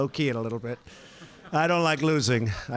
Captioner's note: laughter